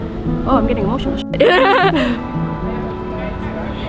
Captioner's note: laughs